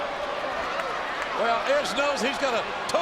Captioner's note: audience cheering